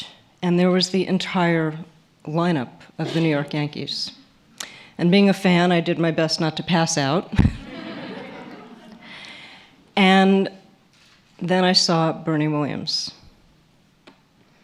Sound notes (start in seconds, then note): 7.4 laughter